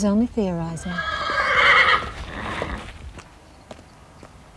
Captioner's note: horse neighing